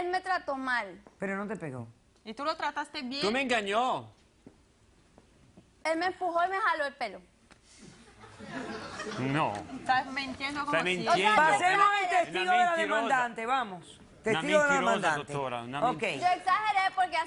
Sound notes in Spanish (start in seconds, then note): 8.0 Risas del público